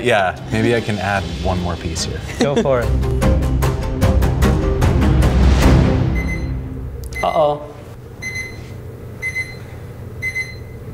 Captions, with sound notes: Yeah, maybe I can add one more piece here. Go for it. (beeping) Uh oh. (beeping)